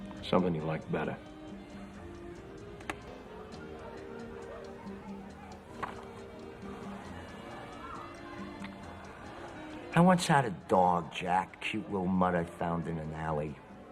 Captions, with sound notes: Something you'll like better. (patrons chattering) (distant party music) - I once had a dog Jack, cute little mut I found in an alley.